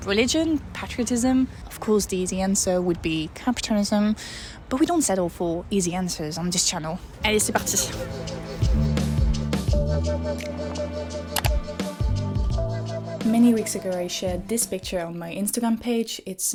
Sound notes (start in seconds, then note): 7.4 laid-back chill music; 11.3 mouse clicks